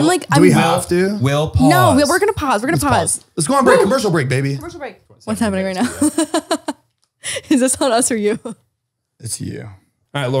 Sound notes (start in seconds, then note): 5.7 laughs